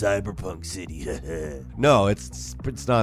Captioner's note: laughs evilly